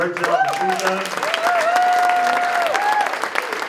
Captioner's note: applause